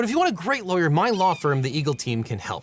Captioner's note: eagle screeching